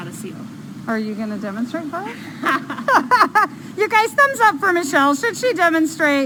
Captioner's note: laughter